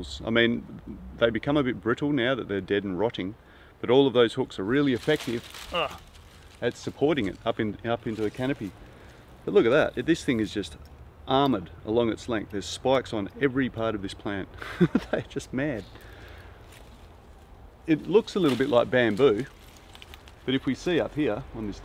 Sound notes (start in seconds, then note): 4.9 cane rattles; 5.6 grunts; 14.6 chuckles; 20.3 leaves rattle